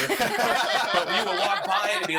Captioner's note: laughing